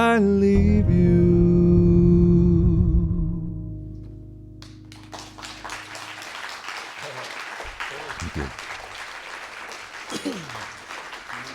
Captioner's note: applause